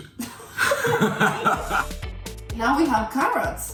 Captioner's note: laughing